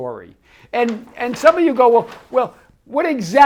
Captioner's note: paper rustles